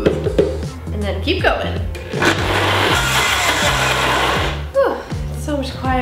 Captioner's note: blender whirring